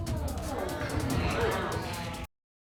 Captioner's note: audience exclaims